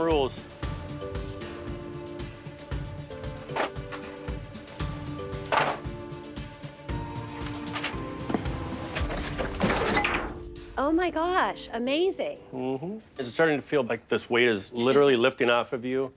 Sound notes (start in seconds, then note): 0.3 pensive music; 3.7 objects clattering; 7.2 objects clattering; 8.5 light suspense music